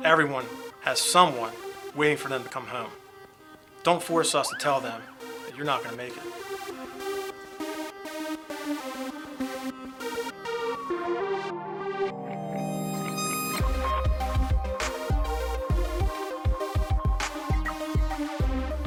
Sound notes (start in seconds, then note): 7.4 dramatic electronic music; 10.8 siren wails